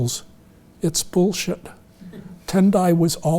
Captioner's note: audience chuckling